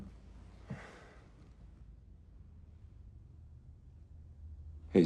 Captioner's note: Homelander sighing